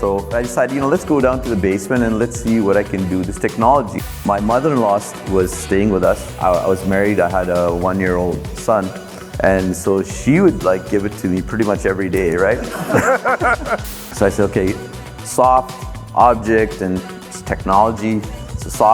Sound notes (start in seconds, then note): 4.1 static crackles; 12.6 everyone laughing; 13.9 static crackles